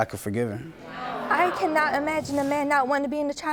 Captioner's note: audience clamoring